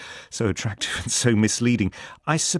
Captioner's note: chuckles